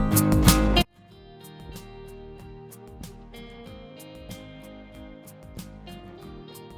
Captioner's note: music glitches